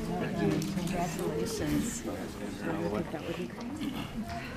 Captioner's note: woman's Voice; overlapping muttering